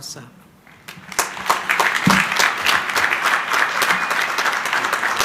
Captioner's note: crowd applauding